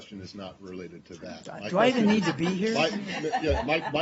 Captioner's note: laughter